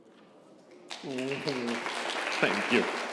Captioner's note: congregation applauding